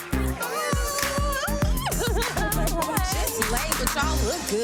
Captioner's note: women squealing